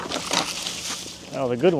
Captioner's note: water splashes